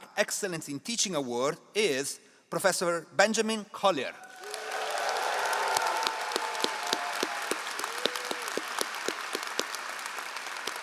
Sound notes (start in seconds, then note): 4.2 all applauding